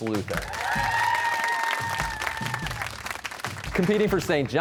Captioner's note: cheers and applause